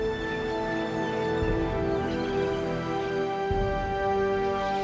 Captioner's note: birds chirping